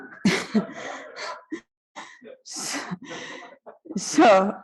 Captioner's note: audience laughing